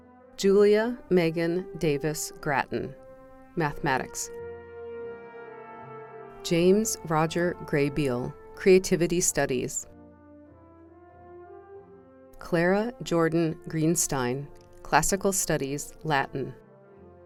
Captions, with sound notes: Julia Megan Davis Gratton, Mathematics James Roger Graybeal, Creativity Studies Clara Jordon Geenstein, Classical Studies (Latin)